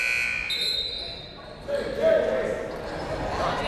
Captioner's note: buzzer; whistle